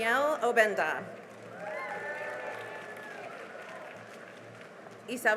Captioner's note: cheering and applause